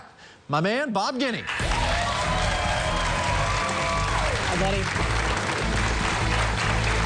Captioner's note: cheers and applause